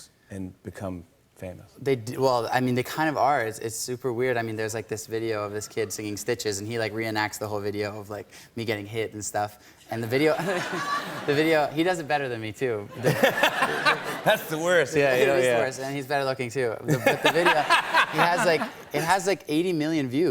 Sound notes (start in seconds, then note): 10.5 light laughter; 12.9 laughter; 16.8 laughter